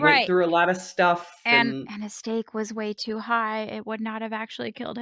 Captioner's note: whispering